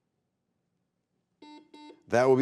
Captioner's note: buzzer beeping